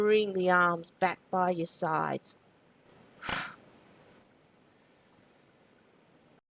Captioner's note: short exhalation